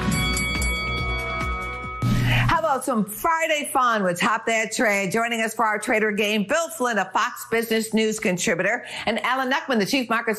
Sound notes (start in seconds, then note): 2.0 bell rings